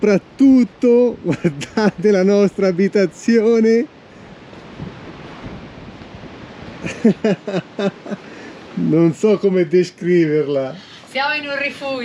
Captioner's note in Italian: Risate